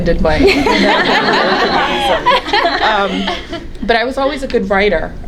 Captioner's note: everyone laughing